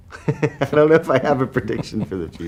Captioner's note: laughing